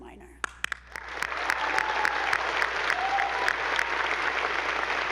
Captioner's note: attendees applauding